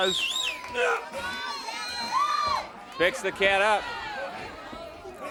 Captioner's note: crowd cheering